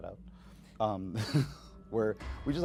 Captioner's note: chuckling